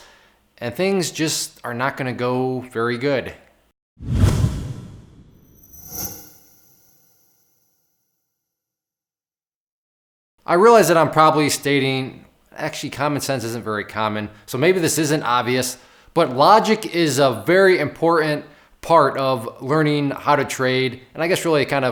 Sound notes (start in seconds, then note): 4.0 forcefully rushing air; 5.6 tambourine ringing